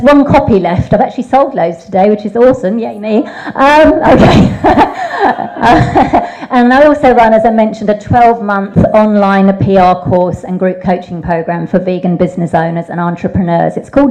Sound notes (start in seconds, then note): 3.1 laughs; 4.1 audience laughing